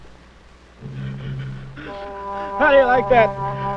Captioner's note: bomb explodes